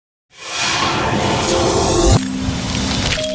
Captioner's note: electronic sounds